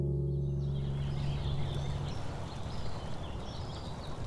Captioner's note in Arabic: موجة المحيط